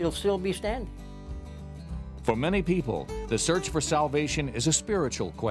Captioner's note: voiceover